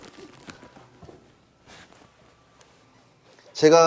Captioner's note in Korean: 싹둑 싹둑 싹둑